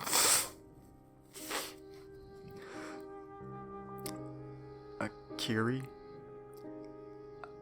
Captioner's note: SFX: nose blow